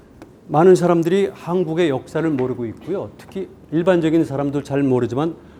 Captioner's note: speaking in Korean